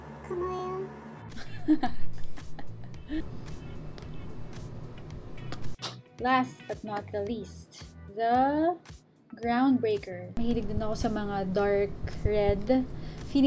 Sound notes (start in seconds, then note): 1.3 laughs